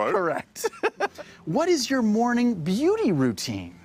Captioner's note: laughs